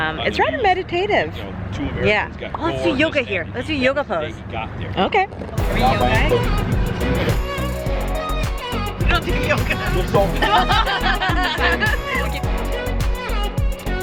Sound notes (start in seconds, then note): 10.1 laughs